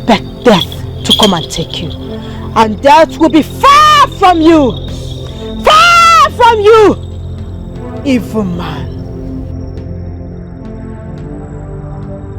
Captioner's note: screaming